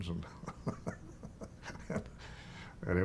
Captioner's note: chuckling